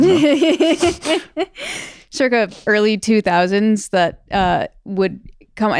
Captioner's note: laughs